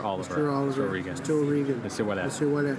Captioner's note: speaking in french